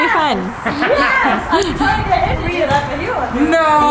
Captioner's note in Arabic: يضحك الجميع